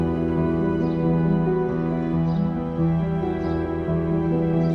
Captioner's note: birds chirping